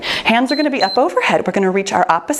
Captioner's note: timer beeps